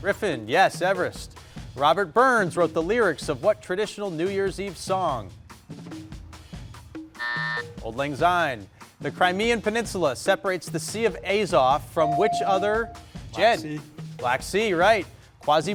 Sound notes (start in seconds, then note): 5.5 buzzer buzzing; 12.0 bell dinging